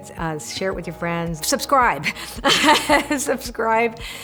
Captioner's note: laughs